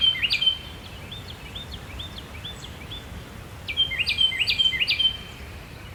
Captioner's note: carolina Wren Song